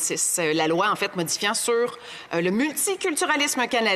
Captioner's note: speaking in French